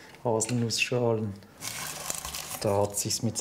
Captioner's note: rustling